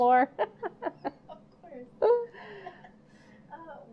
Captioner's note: laughing